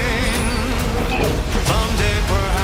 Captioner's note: retching